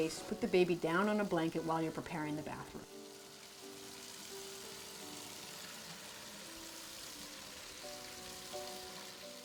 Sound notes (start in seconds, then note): 3.4 water running